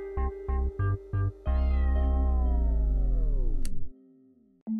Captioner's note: cat meows; switch clicks